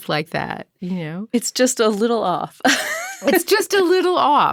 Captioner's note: laughing